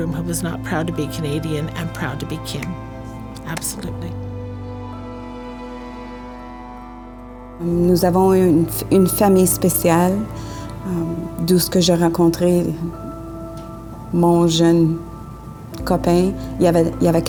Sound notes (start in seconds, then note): 2.9 claps; 8.0 speaks in French